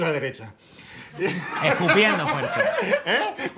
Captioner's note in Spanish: todos ríen